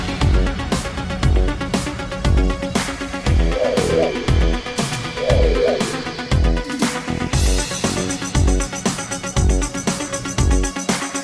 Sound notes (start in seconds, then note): 3.3 whirring sound; 6.7 suspenseful music